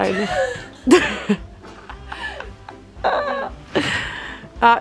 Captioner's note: laughter